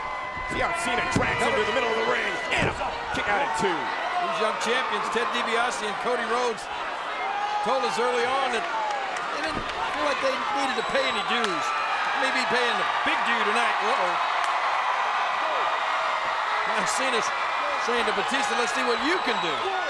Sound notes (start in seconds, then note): 2.5 hands thudding